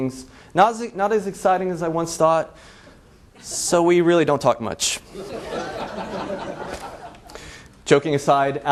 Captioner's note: laughs